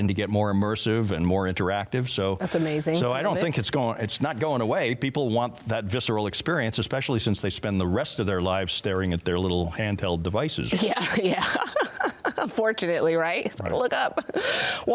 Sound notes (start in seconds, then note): 10.9 laughing